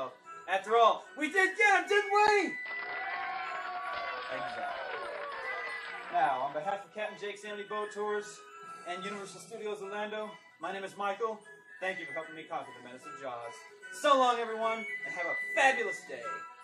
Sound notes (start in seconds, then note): 2.5 applause